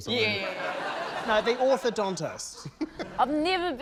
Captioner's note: laughs